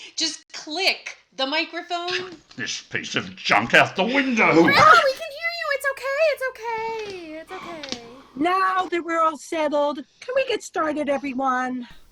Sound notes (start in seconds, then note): 7.5 sigh